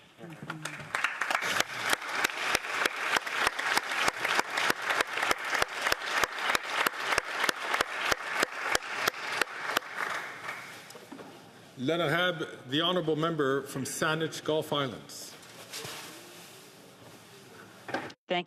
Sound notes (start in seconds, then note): 5.0 applause